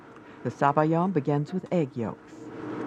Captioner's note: voiceover